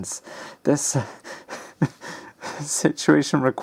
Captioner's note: laughs rattingly